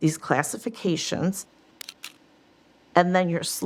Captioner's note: slide clicking